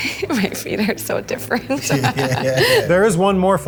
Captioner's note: laughs